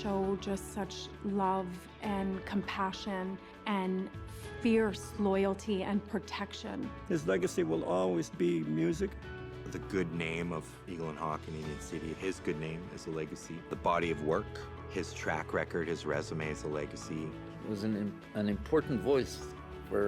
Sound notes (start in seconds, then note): none